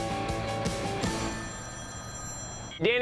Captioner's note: phone ringing